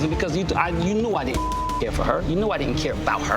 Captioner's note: beep